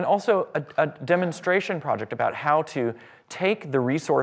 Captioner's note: none